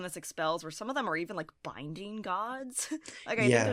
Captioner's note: chuckles